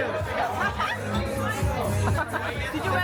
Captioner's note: laughing